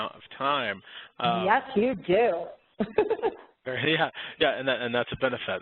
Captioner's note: laughs